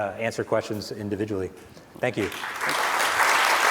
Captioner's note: applause